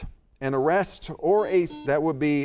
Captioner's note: buzzer beeps